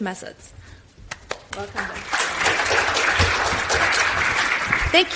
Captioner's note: audience applauds